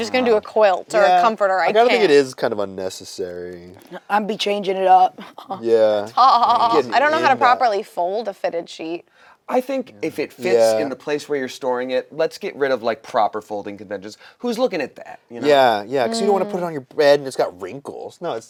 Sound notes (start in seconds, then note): 5.2 laugh